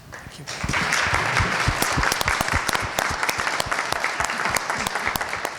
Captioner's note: audience clapping